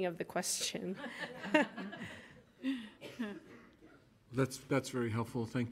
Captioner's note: everyone laughing